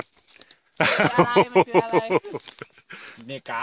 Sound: laughter

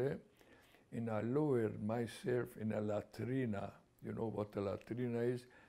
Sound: non-english

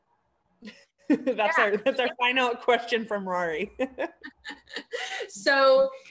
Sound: laughing

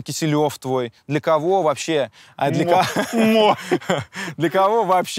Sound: both laugh

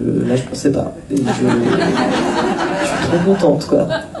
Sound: laughs

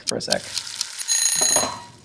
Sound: frying sound; bell dings

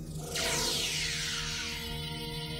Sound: whines

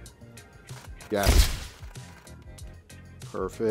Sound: upbeat music continues; camera clicking

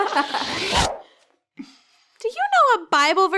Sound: laughing; dramatic whooshing

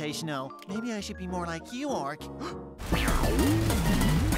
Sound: gasps

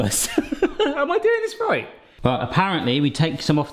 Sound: laughs

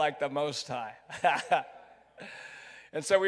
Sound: chuckles

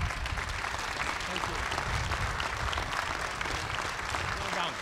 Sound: applause

